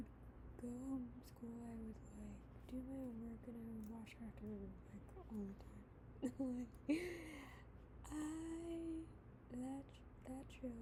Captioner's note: laughs